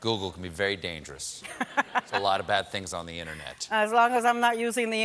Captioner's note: laughter